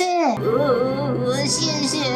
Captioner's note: sobbing